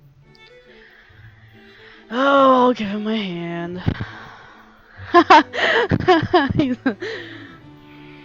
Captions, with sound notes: [exasperated] Oh, I'll give him my hand. [laughs] He's...